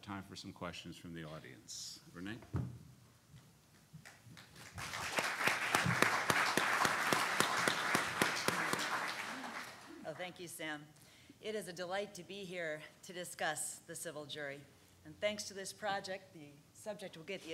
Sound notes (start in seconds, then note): 4.3 clapping